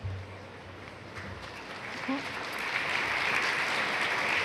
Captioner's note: applause